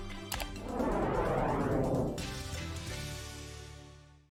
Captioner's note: text whooshing